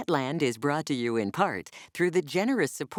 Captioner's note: voiceover